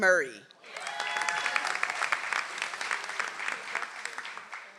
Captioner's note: audience applauds